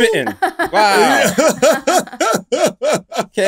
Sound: laughter

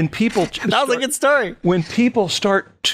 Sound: laughter

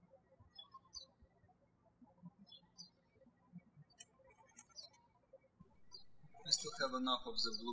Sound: birds chirping

